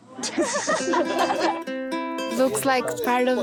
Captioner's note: laughter